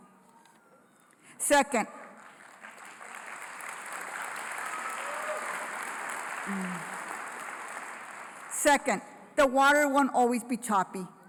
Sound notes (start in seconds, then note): 1.8 applause